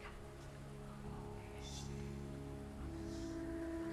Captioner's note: faint whispering